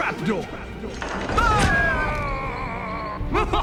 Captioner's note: groans